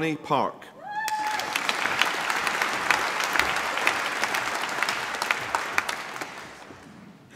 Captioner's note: applause